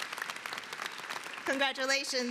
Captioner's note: applause